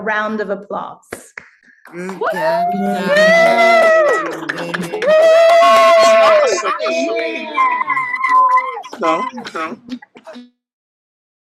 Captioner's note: applause